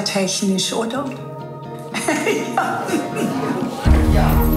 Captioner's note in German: Sie muss lachen